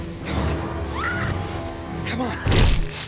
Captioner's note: screams